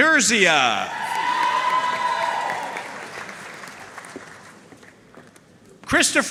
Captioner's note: audience cheering and applauding